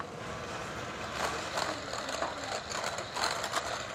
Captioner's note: blender mixing